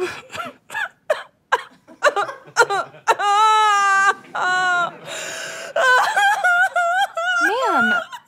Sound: exaggerated sobbing

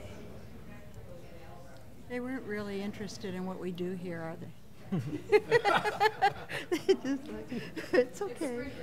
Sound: laughter

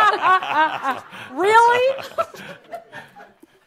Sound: laughter

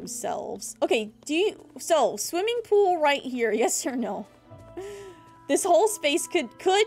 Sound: laughs

